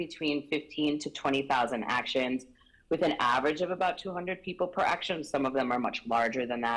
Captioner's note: none